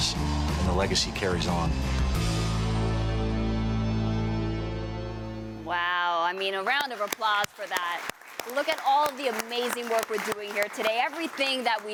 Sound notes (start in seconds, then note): 6.3 applause